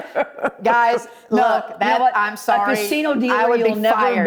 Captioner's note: laughing